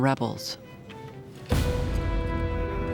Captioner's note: cannon fire